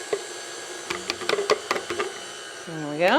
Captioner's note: mixer whirring